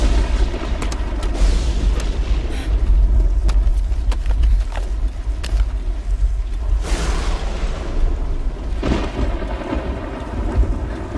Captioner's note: thunder & lightning